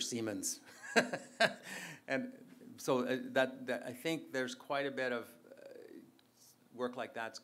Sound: laughs

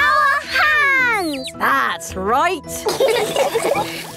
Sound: all laughing

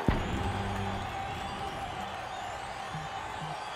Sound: crowd cheering

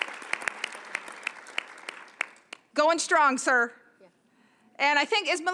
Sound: applause

